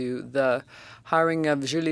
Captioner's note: speaking French